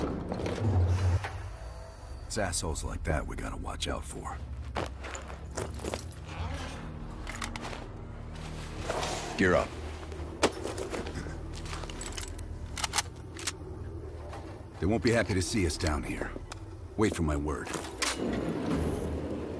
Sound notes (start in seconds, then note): 9.7 footsteps